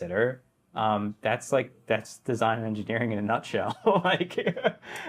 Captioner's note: laughs